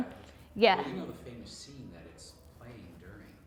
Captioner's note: voiceover